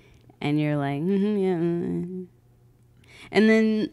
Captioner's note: mumbles weakly